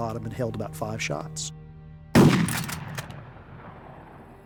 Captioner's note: fires